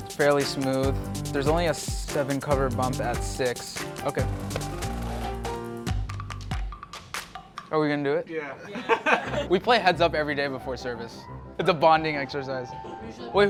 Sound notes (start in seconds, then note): 8.6 laughing